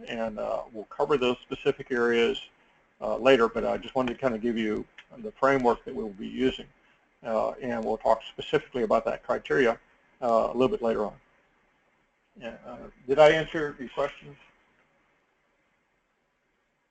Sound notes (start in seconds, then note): none